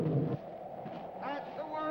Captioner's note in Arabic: أنين الفيل; تهب الرياح